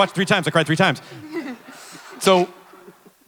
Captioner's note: Ridley et al chuckle